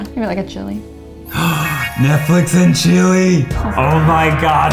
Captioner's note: gasps